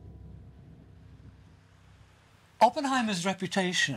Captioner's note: water crashing